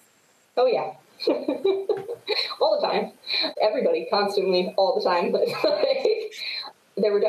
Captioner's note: chuckles; laughs